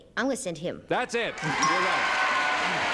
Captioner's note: applause and cheering; ding